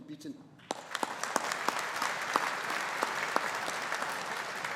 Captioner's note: audience applauding